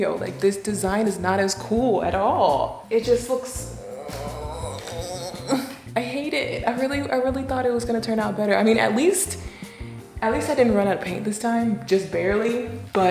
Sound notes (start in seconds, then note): 3.5 groans